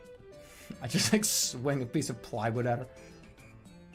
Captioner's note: chuckles